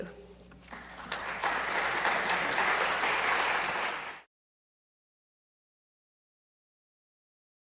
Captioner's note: applause